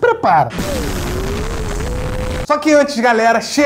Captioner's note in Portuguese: explosão